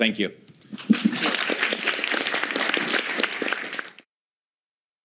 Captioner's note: applause